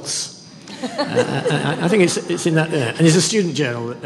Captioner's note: laughter